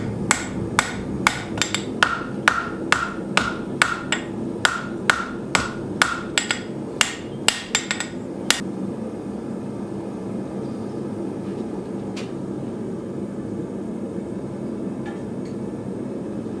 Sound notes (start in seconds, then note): 12.3 furnace roaring